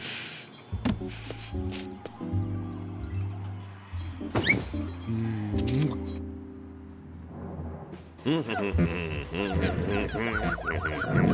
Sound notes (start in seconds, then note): 7.9 hums